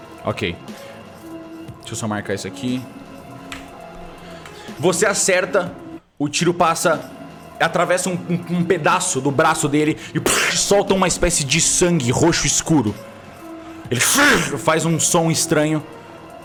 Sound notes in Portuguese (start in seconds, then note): 13.9 grunhido